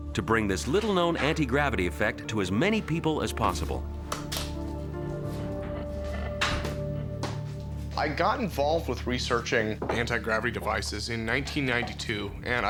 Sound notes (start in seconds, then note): 4.1 switch clicks; 5.0 inquisitive music